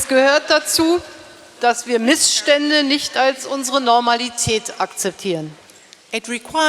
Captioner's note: speaking in German